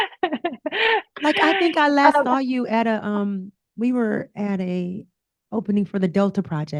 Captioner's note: laughter